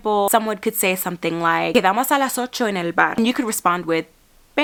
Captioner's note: speaking Spanish